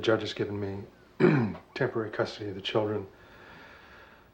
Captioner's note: clears throat